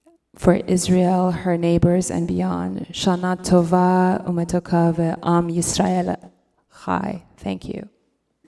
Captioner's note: speaking Hebrew